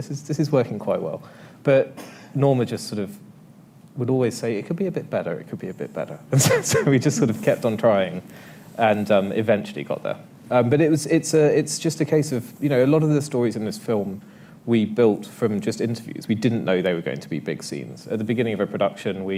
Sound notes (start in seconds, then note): 7.0 laughs